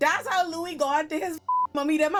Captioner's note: beep